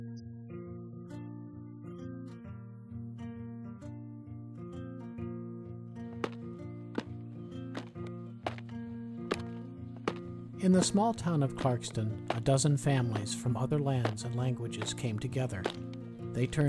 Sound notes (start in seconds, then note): 7.4 tap! Tap! Tap! Tap